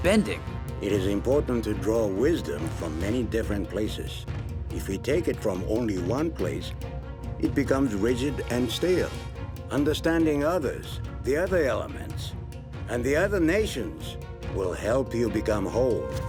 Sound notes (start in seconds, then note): none